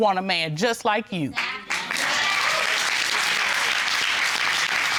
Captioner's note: audience cheering, applauding